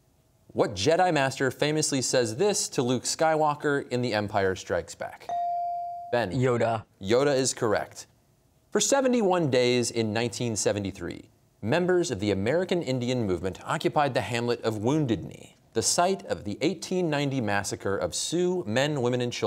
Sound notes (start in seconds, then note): none